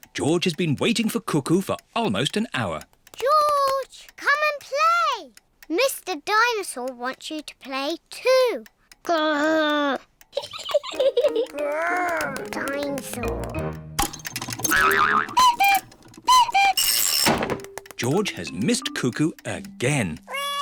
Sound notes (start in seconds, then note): 10.3 laughs; 14.0 clock cuckoos